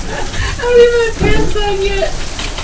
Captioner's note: laughing